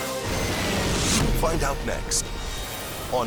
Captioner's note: siren; logo squishes